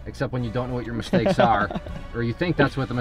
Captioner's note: laughs